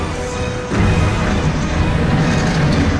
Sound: explosion

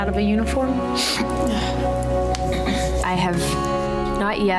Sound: sniffs

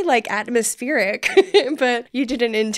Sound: laughing

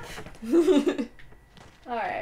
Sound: laughter

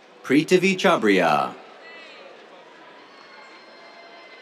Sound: cheers

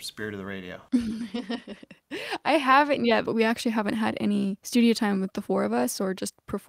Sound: laughter

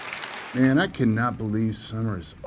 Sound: rain drops

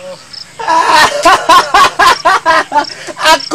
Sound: laughs

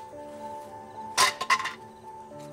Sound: bang

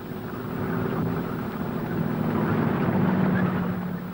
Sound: engines humming

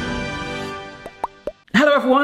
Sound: upbeat music; logo pops

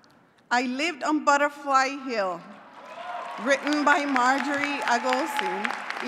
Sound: applause

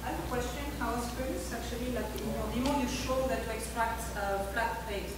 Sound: talking in background

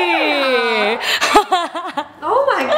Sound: laughs

